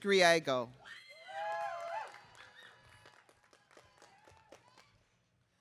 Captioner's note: audience cheering